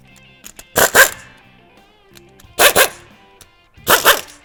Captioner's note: tool buzzing